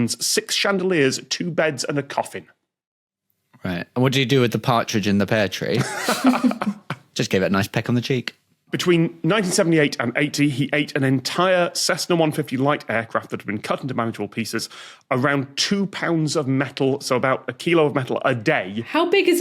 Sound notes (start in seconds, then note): 5.7 laughs; 5.8 snickers